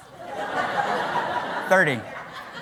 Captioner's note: laughter